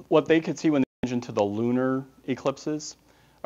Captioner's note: audio scramble